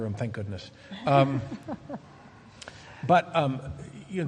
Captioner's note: laughs